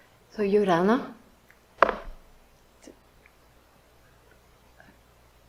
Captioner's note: speaks in foreign language